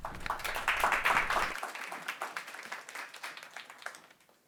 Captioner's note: audience clapping